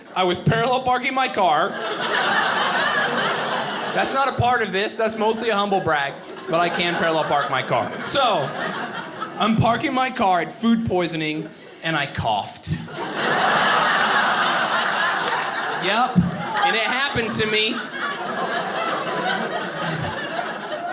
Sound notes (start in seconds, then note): 1.8 audience laughing; 12.7 audience laughing